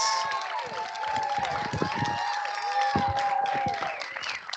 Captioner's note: applause